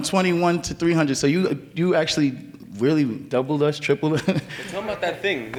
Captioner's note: laughs